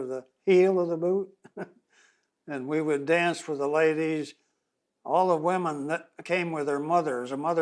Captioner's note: laughs